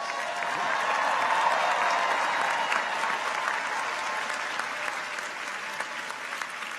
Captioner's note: audience applauds; people cheer